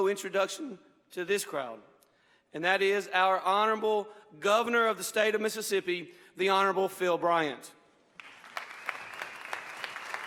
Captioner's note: applause